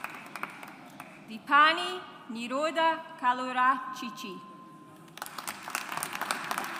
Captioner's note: audience applauds